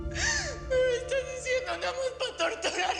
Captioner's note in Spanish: Sollozos